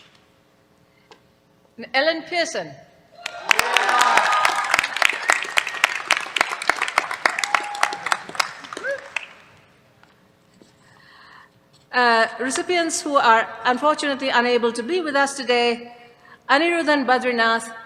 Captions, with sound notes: And Ellen Pearson. [CHEERS, APPLAUSE] Recipients who are, unfortunately, unable to be with us today, Anirudhan Badrinath